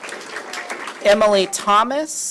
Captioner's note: applause